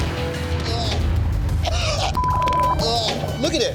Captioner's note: tense music; gagging